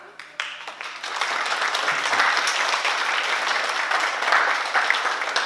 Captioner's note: oklaski